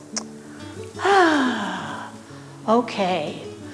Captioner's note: sighs